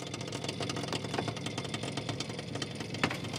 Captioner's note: stuttering crackling